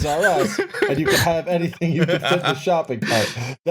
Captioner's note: laughs